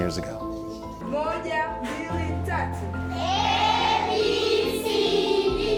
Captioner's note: children recite the alphabet